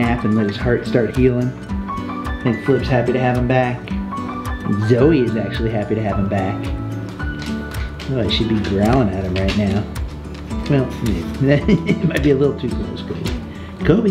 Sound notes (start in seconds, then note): 11.4 Rocky laughs